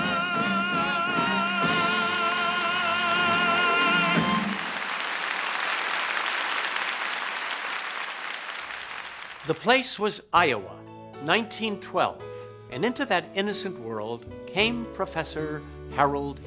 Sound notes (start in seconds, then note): 4.4 applause